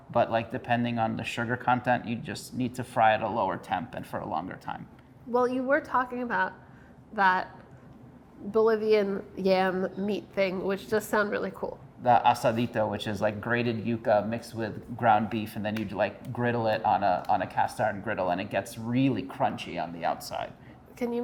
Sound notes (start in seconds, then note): none